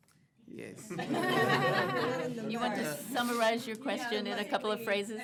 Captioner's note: laughter